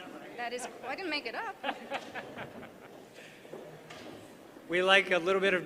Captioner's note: laughter